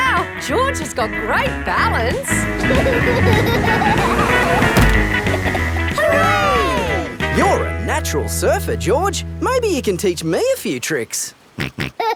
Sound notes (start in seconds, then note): 3.1 laughing; 11.9 snorts and laughs